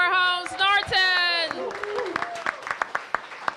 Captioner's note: cheers and applause